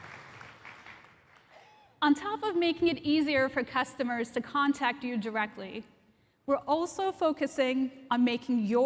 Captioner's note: applause